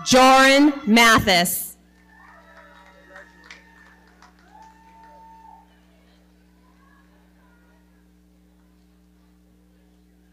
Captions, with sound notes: Joryn Mathis. (audience cheering) - Congratulations.